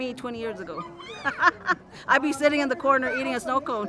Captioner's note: laughing